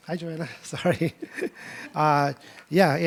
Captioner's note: laughs